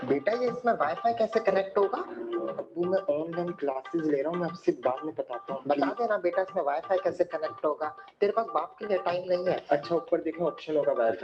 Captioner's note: speaking in Urdu; noise coming from tablet